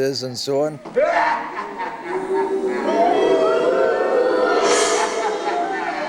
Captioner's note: audience booing